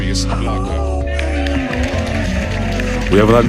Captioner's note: applause